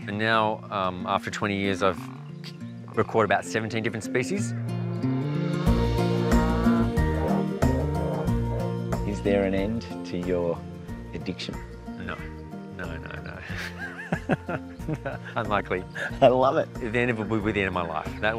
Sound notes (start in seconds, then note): 6.1 croaks; 13.3 laughs